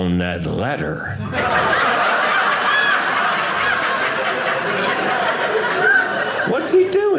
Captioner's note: audience laughing